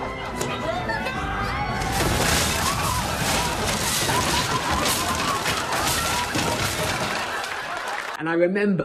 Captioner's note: dramatic music; crashes and screams